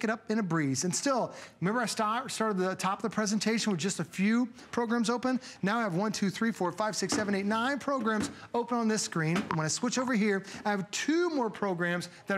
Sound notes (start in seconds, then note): 9.9 counting